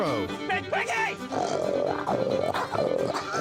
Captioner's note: imitates a hog grunting; laughs